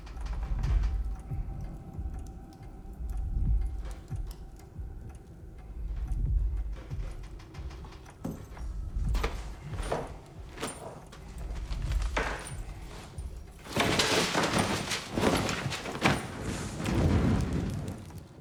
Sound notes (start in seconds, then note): 7.4 clock ticking